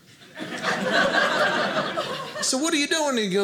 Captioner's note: audience laughing